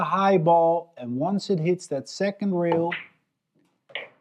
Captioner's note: balls clacking